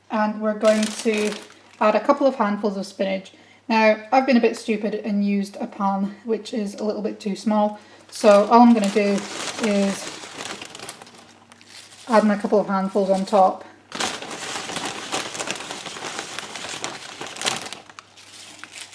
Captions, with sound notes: and we're going to add a few handfuls of spinach Now I've been a bit stupid and used a pan which is a little bit too small So all I'm gonna do is... (spinach bag rustles) Add in a couple of handfuls on top (hand rummaging in the spinach bag)